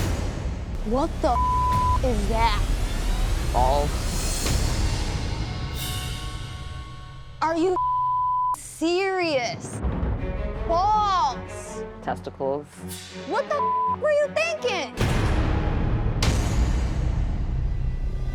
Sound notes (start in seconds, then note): 1.3 beep; 4.4 dramatic music; 7.7 beep; 13.5 beep; 15.4 dramatic music